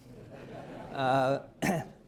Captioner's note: laughter